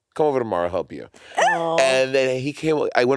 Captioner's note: exclaiming